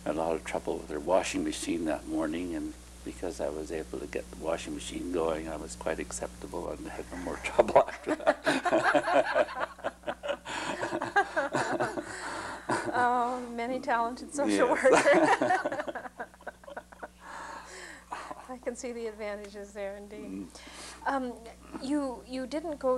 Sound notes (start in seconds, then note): 11.2 laughter